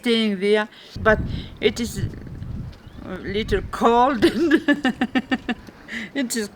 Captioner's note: laughing